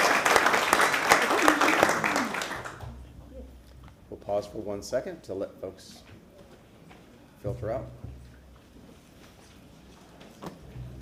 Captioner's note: applause